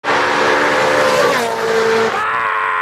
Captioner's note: car engine roaring; screams